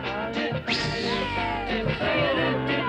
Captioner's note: swishing; kids cheering